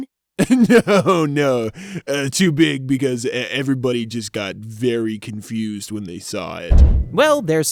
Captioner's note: laughs